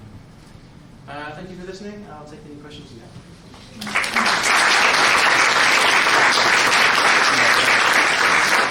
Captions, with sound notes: Thank you for listening, I'll take any questions you have. (audience applause)